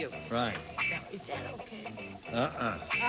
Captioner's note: whispers